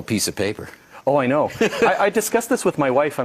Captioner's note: laughs